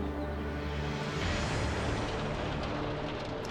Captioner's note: beating hail